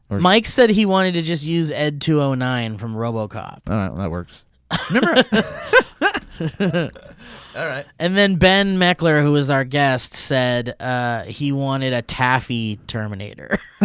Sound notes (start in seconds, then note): 4.7 laughs